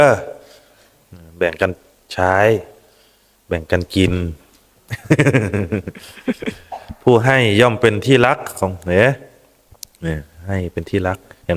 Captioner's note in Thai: เสียงหัวเราะ